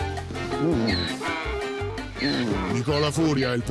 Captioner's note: Donkey's bray